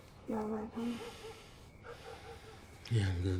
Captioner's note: sighing